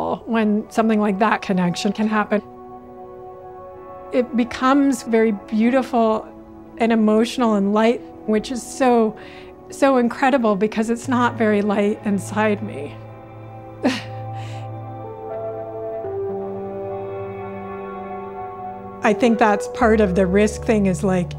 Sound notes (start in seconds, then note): 13.8 chuckles